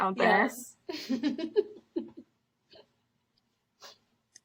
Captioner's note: laughs